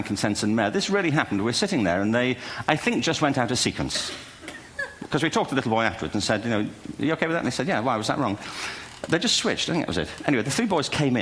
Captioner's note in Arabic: ضحك